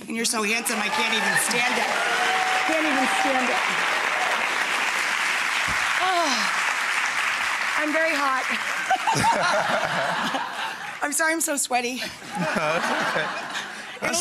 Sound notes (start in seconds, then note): 1.9 audience applause; 8.5 Rachael and 50 laugh